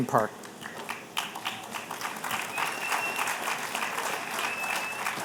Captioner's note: applause